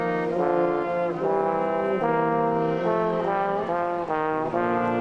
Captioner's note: none